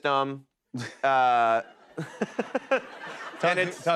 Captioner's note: chuckles